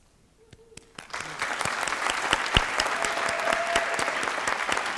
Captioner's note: applause